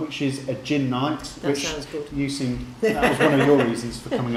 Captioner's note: laughing